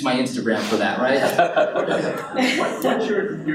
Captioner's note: audience laughs